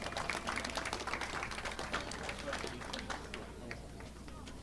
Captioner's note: audience clapping